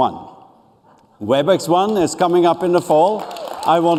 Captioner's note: applause